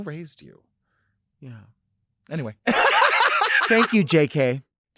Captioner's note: laughing